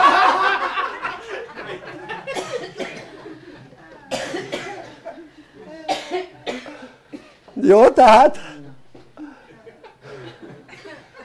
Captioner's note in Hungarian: Nevetés